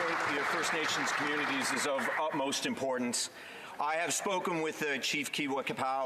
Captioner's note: some Applause